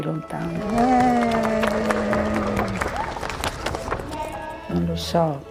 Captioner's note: group cheers and applauds; speaking in foreign language